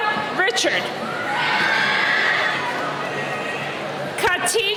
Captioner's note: cheering